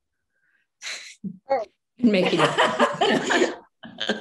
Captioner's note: laughing